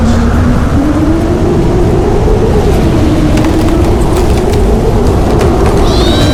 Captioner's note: strong wind howling; animal screams, trees creaking